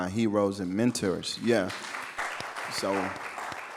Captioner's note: audience clapping